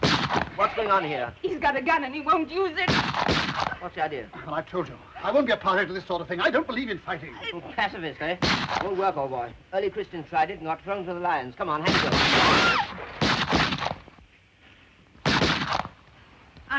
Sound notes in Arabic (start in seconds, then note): 0.0 اطلاق نار; 2.8 اطلاق نار; 11.9 إطلاق نار وتحطيم زجاج; 12.4 تصرخ مارغريت; 15.2 طلقات نارية